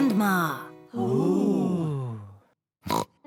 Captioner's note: all gasp; snorts